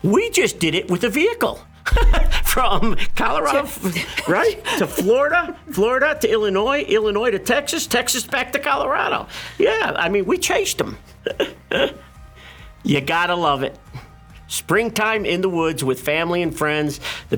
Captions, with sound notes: We just did it with a vehicle! [LAUGHTER] From Colorado-- Right? To Florida, Florida to Illinois, Illinois to Texas, Texas back to Colorado. Yeah, I mean, we chased them. [GIGGLING] You got to love it. Springtime in the woods with family and friends,